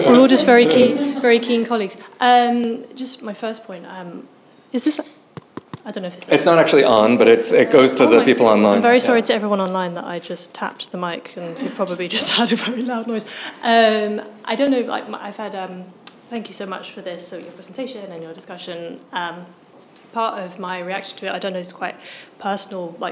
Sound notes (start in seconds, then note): 5.3 mic thudding; 12.6 chuckles